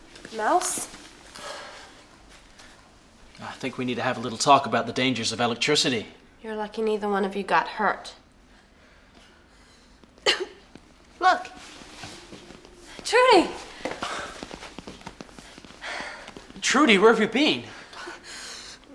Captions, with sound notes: Mouse? - I think we need to have a little talk about the dangers of electricity. - You're lucky neither one of you got hurt. (coughs) - Look. - Trudy! - Trudy, where have you been?